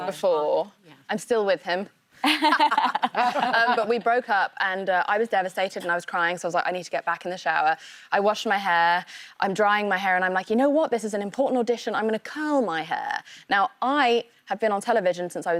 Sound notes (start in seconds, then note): 4.3 laughter